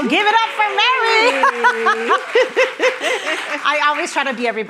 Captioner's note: attendees clapping; both laughing